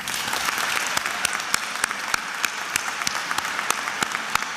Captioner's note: attendees applauding